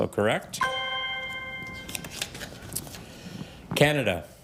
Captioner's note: ethereal ring